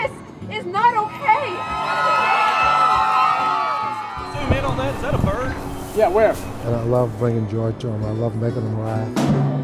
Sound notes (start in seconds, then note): 1.1 crowd cheering